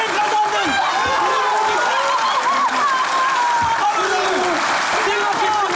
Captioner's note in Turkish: Herkes alkışlar